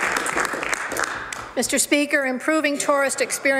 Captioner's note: some Applause